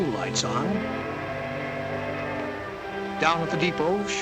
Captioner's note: train whistle